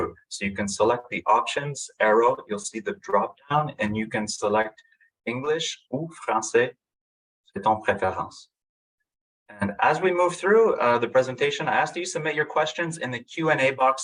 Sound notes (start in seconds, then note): 8.0 french